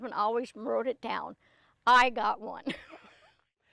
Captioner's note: laughing